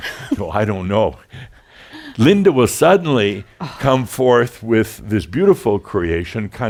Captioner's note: she chuckles; they chuckle